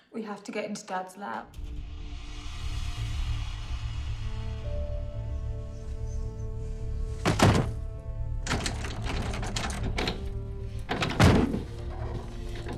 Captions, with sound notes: - We have to gt into dad's lab. (ominous music) (loud banging)